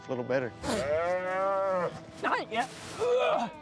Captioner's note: calf moos; grunting